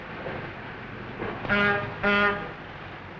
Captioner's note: horn toots